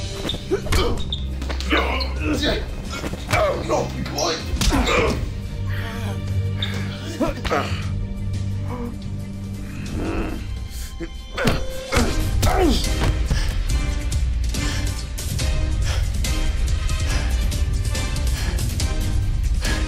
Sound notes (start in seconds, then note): 0.1 all grunting; 5.6 groaning; 11.4 broth grunting; 14.7 panting